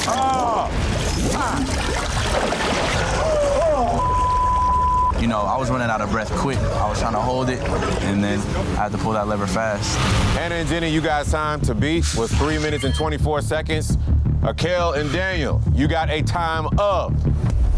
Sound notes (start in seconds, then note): 0.0 chain rattling; 0.0 urgent music; 2.0 water gurgling; 3.5 gasping